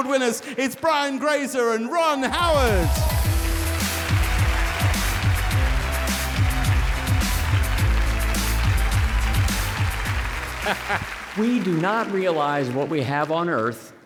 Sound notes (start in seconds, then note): 2.6 audience applauding and cheering; 4.2 upbeat music